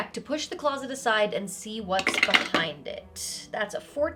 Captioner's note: dice rattling